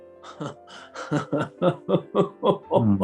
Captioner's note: chuckling